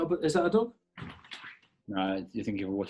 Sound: loky scratching at door

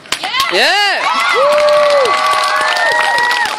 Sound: cheers from crowd

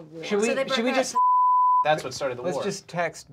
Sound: beeping

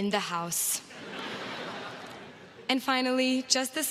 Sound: crowd laughs

